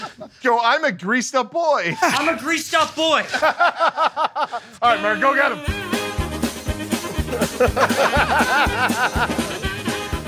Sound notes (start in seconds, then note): 3.2 laughing; 6.9 laughing